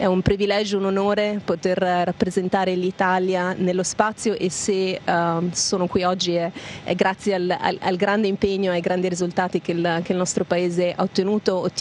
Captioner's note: speaking italian language